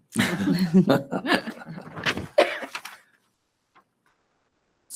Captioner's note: board members laughing